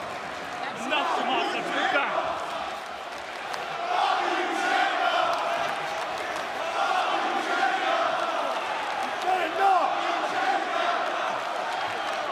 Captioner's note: crowd cheering